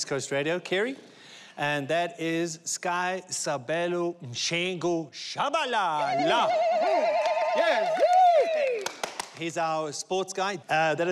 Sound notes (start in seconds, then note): 3.0 speaking in foreign language; 6.0 cheering